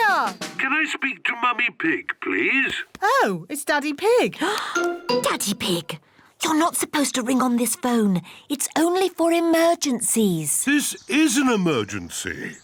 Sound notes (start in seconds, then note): 4.6 gasps